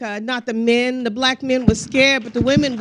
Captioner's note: crowd applauding